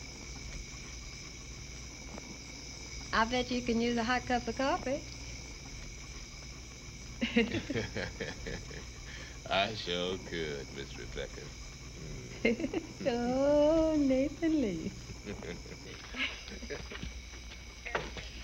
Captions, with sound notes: >> I bet you could use a hot cup of coffee. [Laughs] >> I sure could, Miss Rebecca. >> Oh, Nathan Lee.